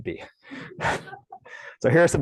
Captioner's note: laughter